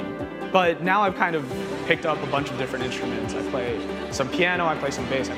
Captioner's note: none